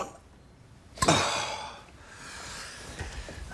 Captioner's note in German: Ploppen, erleichtertes Seufzen